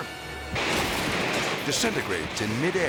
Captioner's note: metal crashes